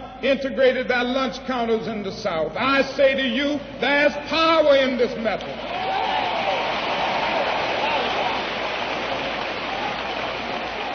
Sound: applause

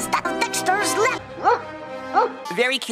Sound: Lab barking

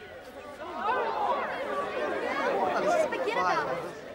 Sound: crowd chattering

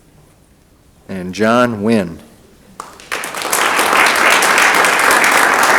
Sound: audience applauding

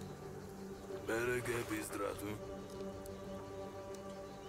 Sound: speaking in foreign language

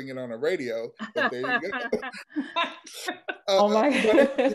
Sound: laughing

